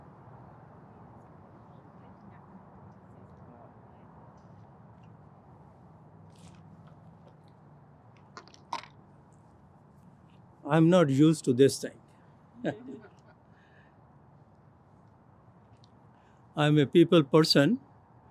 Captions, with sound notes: - I'm not used to this thing. (chuckles) I'm a people person.